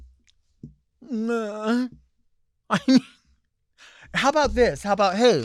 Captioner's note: moaning